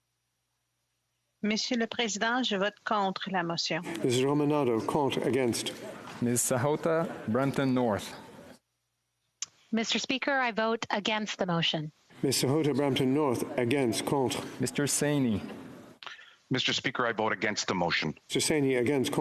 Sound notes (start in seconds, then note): 6.4 speaking French